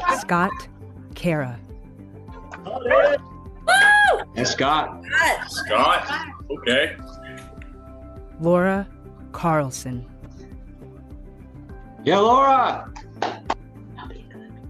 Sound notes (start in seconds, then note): 2.6 cheering